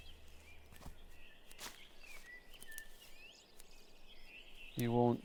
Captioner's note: birds chirping